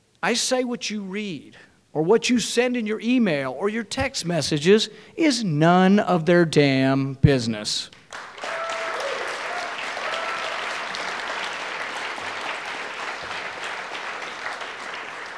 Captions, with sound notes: I say what you read or what you send in your email or your text messages, is none of their damn business. (audience cheering)